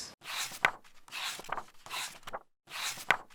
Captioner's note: pages turning